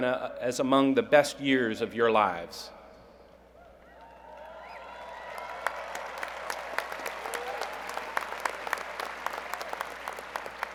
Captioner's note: cheers and Applause